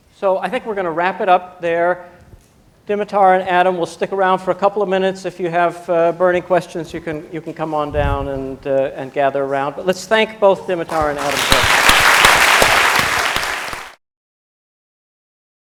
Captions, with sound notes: So I think we're going to wrap it up there. Dimitar, Adam, will stick around for a couple of minutes. If you have burning questions, you can come on down and gather around. But let's thank both Dimitar and Adam. [APPLAUSE]